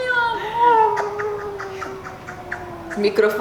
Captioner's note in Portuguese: som de beijo